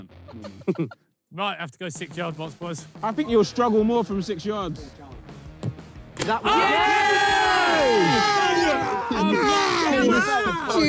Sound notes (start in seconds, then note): 0.2 players laugh; 6.2 players cheer